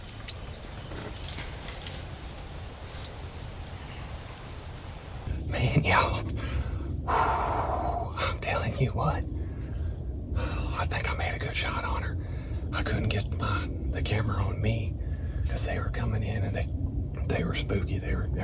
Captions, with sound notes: Man, y'all. [Exhales deeply] I'm telling you what. I think I made a good shot on her. I couldn't get my the camera on me cuz they were coming in and they they were spooky they were they